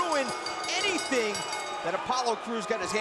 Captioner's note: bell ringing